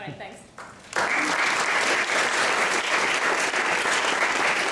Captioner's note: applause